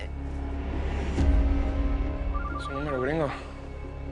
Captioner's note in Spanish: Suena el celular